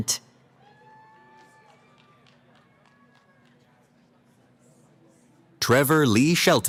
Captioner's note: cheering